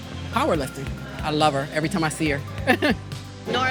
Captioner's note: laughs